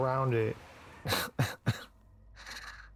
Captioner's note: chuckle